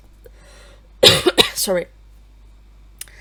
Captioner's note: cough